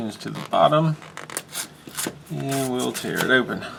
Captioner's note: tearing sound